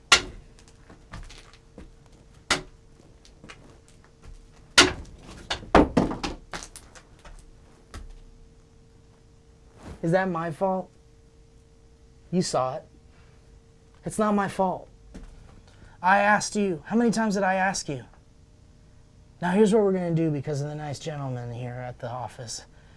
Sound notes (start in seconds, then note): 0.0 tapping canvas; 4.8 painting thumps